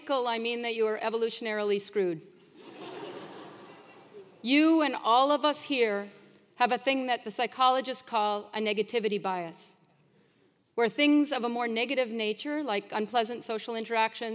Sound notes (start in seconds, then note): 2.7 laugh